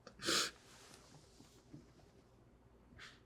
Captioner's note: sniffles